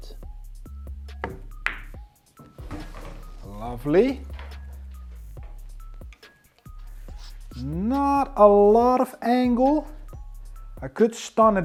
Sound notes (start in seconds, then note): 0.2 upbeat music continues; 1.1 ball bangs; 5.1 upbeat music continues